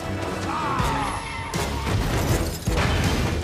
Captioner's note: shouts; metal crunching